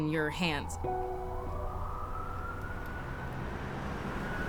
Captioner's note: sirens wailing